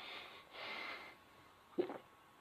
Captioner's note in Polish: przełknięcie